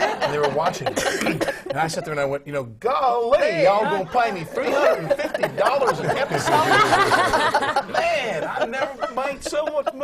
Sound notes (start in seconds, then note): 3.7 laughter